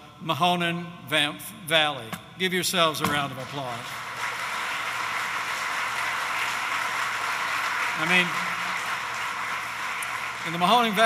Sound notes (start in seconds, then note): 3.1 applause